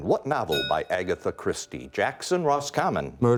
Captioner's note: bell rings